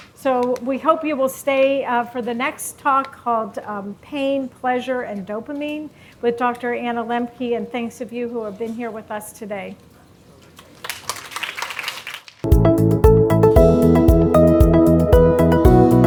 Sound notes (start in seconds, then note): 10.8 audience applauding; 12.4 bright upbeat music